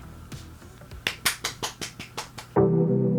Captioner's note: applause